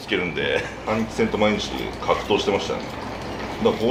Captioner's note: laughter